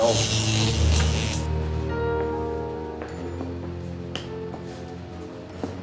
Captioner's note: electricity crackling; eerie music